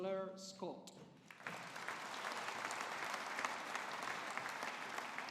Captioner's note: audience applauding